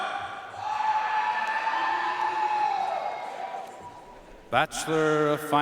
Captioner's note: audience cheering and applauding